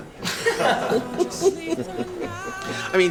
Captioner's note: patrons laugh